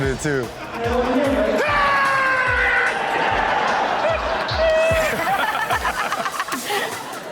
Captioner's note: guy screams; audience and hosts laugh